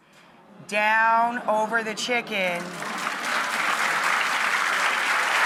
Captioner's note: audience applauds